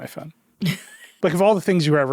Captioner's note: chuckling